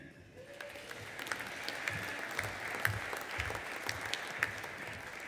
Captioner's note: audience applauding